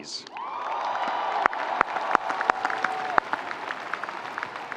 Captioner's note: audience cheering